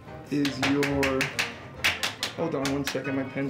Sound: tapping

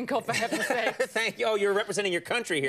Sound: laughs

